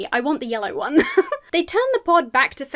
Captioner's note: laughs